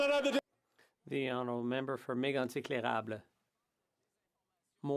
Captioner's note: some Laughter